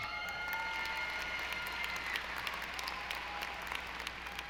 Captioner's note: audience applauding